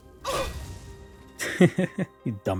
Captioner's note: chuckling